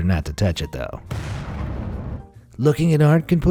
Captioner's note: explosion